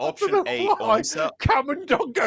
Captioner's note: laughter